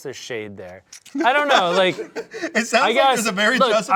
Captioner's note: laughs